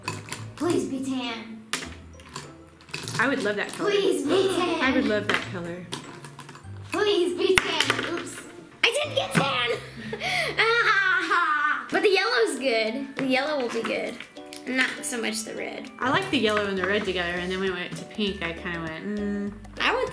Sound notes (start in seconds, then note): 9.6 laughs